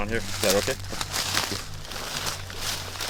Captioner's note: rustling leaves